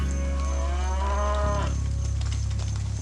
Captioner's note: mooing